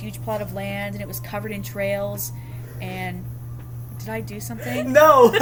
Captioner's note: laughing